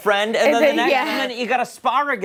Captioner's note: laughter